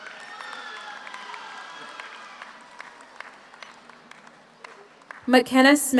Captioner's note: audience cheers; audience applauds